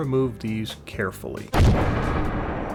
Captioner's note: explosion